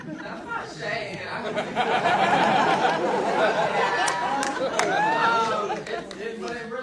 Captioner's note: audience laughing